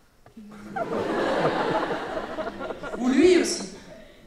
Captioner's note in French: rires